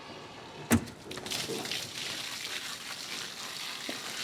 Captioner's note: water splashing